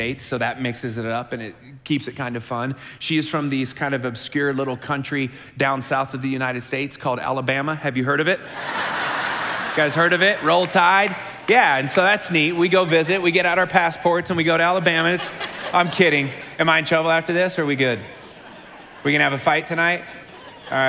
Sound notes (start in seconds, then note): 8.4 congregation laughing